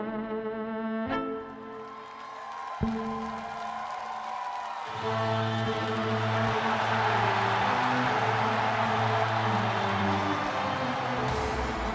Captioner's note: cheers and applause